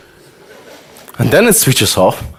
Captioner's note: audience laughter